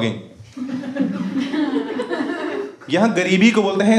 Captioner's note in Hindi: हँसना